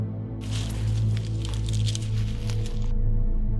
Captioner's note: leaves rustling